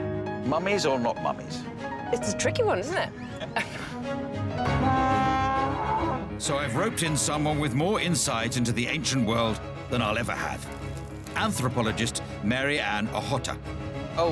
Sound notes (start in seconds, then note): 4.1 blaring